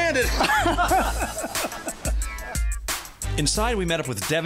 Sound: both men laughing

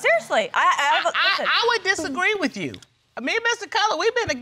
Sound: stuttering

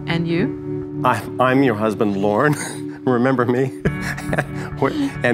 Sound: chuckles

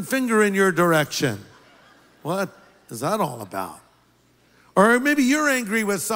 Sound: laughter

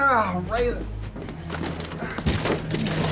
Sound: grunts

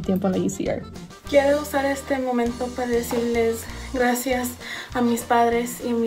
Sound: speaks in foreign language

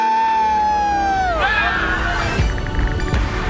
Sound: screaming; all scream

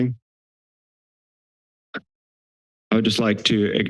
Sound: silence

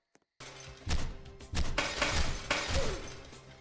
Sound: smash

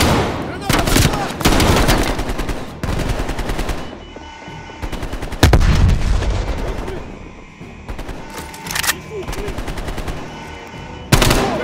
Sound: gunshots

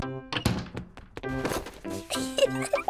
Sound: giggles

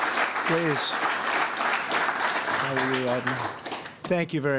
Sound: applause

